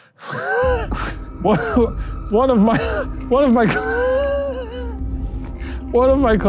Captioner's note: laughs; wheezes